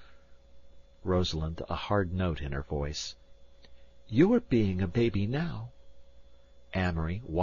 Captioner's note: A hard note in her voice